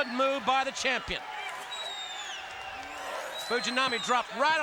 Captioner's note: audience cheering